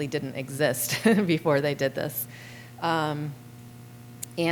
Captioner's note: laughter